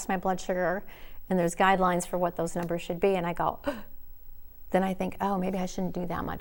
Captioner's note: gasp